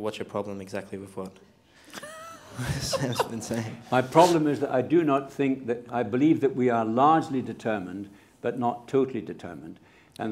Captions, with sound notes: What's your problem exactly with what... [Laughter] ...Sam's been saying? -My problem is that I do not think that, I believe that we are largely determined but not totally determined.